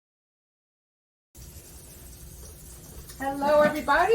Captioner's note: food sizzling